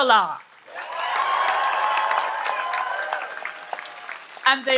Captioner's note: audience applauds and cheers